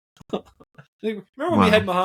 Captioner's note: laughing